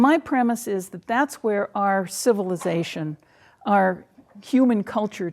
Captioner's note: none